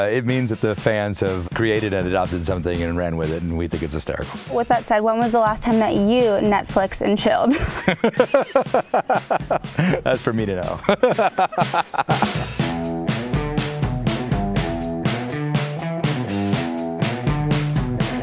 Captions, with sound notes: - It means that the fans have created it off of something and ran with it, and we think it's hysterical. - With that said, when was the last time that you Netflix and chilled? (laughs) (laughing) - That's for me to know. (laughs) (upbeat music)